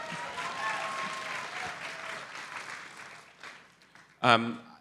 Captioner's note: audience cheers